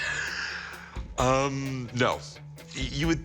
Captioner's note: laughs